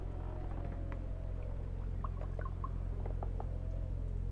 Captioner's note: wind howling